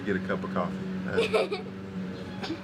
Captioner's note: laughs